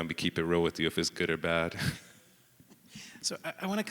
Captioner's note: chuckles